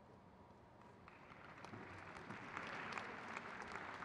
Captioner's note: crowd cheers